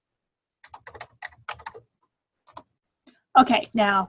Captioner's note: typing